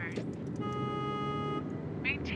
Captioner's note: car honks